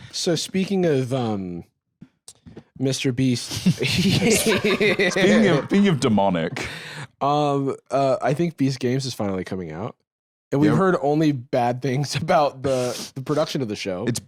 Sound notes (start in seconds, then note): 3.5 laughs